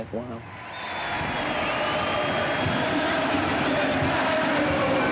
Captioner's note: crowd cheering